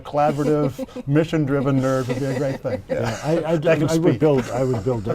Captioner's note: laughter